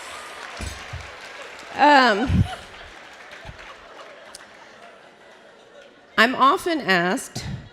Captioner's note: laughter